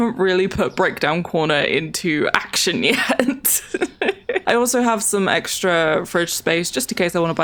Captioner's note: laughs